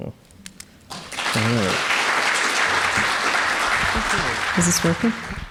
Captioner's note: audience applauding